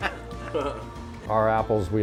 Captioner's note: laughing